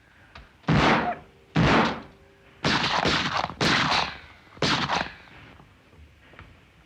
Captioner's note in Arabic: طلقات نارية